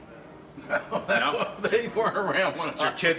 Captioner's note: laugh